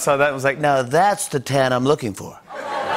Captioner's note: As Trump; laughter